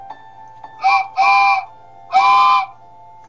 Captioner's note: train whistle